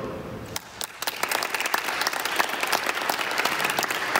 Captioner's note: audience clapping